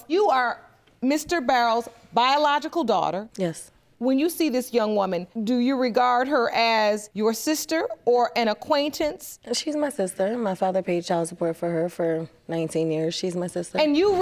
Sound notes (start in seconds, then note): none